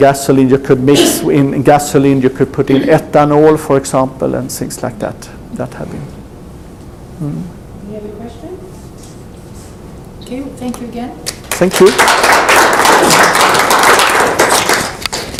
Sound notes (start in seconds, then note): 11.2 clapping